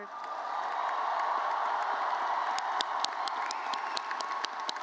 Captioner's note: audience cheers